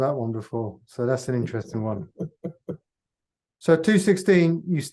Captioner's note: chuckles